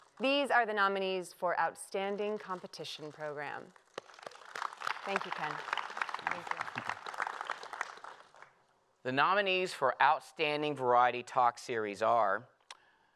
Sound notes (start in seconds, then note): 2.1 applause